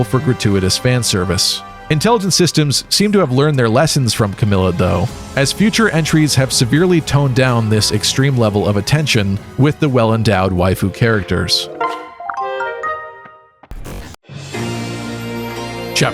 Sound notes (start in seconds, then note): 10.8 item sound jingle